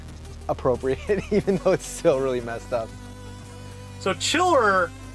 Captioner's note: laughs